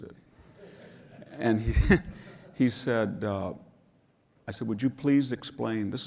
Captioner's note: laugh